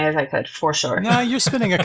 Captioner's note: laughs